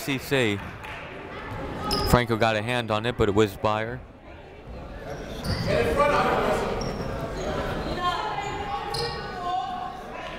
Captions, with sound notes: That'll go to QCC. Franco got a hand on it, but it whizzed by her. (people shouting in the crowd)